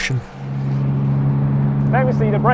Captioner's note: engine throbbing